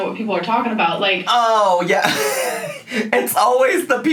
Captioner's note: laughs